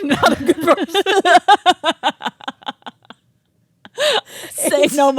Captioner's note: both laughing